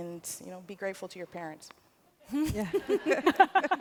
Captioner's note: laughter